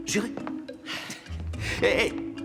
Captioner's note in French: Sophie soupire